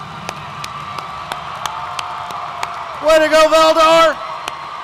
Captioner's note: audience cheers